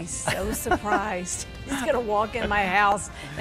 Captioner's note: laughs